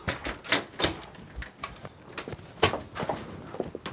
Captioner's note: door rattles